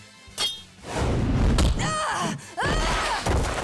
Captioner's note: groaning